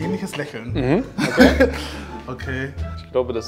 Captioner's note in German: Er lacht